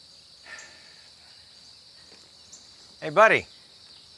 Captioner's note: sighing